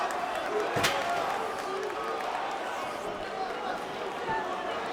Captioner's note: crowd vocalizing